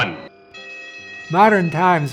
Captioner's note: bell ringing